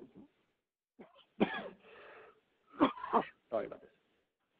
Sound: coughs

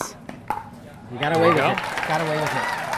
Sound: crowd clapping

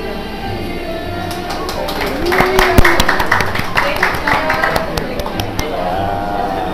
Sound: clapping

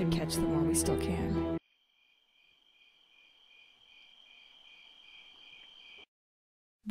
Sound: crickets

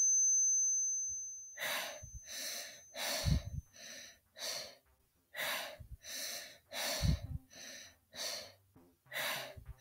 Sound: heavy breathing

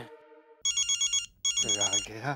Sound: phone ringing

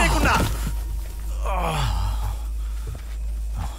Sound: groans

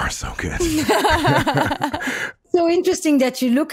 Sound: both laughing

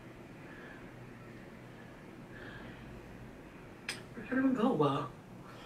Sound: heavy breathing sounds

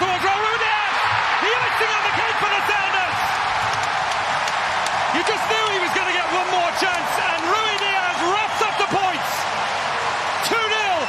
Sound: cheers and applause

